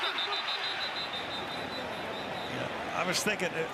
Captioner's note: whistles blowing